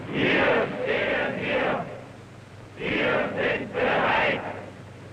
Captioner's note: people pledging in German